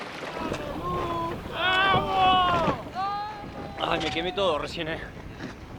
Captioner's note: cheers